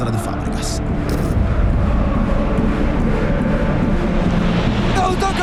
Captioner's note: camera and crowd noise